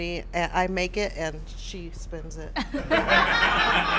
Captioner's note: laughter